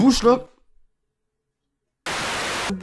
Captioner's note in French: Moment de silence